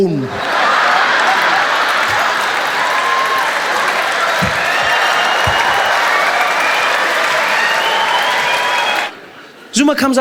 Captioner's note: loud aplause